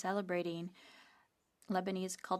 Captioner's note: speaking French